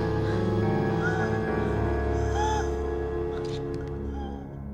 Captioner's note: labored breathing